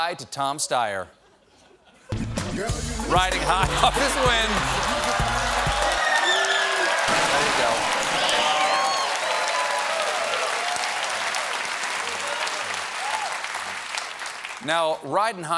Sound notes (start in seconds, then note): 8.7 cheers and applause